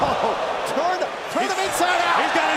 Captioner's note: crowd cheering